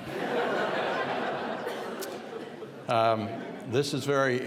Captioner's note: audience laughing